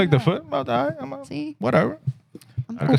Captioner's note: speaking Spanish